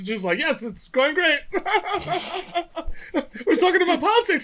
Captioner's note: laughter